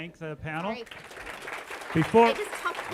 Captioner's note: audience applause